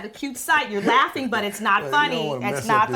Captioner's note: Glynn laughs